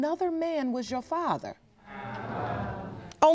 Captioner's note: audience groaning